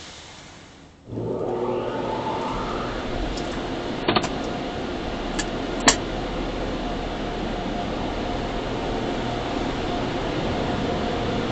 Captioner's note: blower